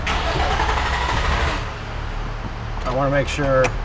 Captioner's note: car engine turning over